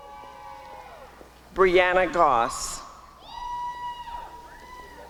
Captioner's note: applause and cheering; applause and cheering